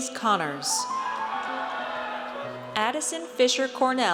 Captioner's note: audience cheers